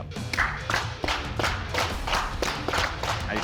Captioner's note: applauding